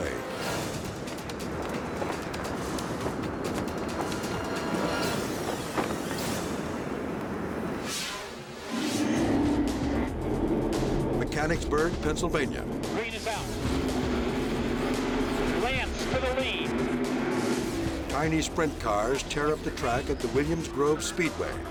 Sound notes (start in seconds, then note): 0.0 light dramatic music; 8.9 engine rumbling